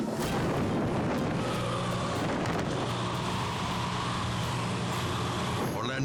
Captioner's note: tense music; wind whooshing